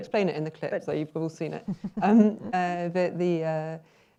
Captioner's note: chuckles